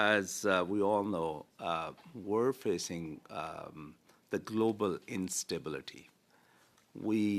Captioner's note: speaking French